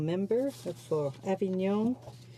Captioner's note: speaking in french